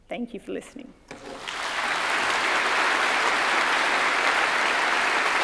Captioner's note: audience applauds